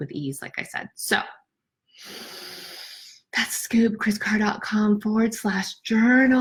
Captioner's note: breathes deeply